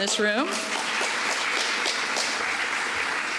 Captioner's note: applause